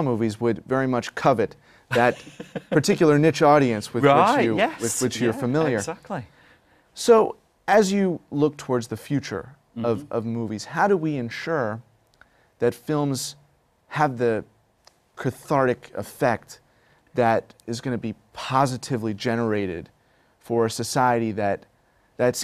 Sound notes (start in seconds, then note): 1.9 laughter